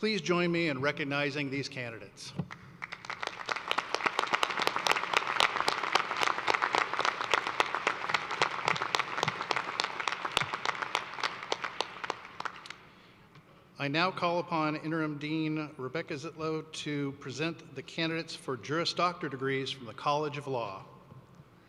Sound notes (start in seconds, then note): 8.9 applause